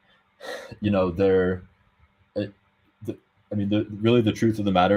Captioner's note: sighs